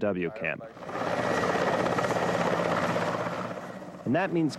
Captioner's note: helicopter rumbling